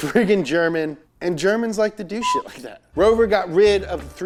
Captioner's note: beep